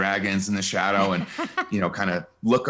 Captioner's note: laughs